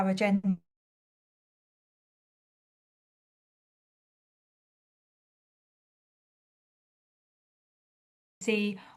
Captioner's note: audio cut